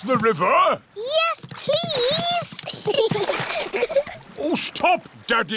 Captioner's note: giggles